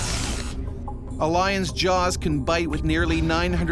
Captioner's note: voiceover